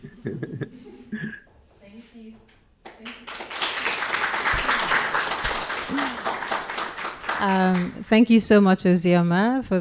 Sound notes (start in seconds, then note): 2.9 audience applauding